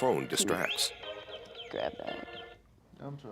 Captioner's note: phone ringing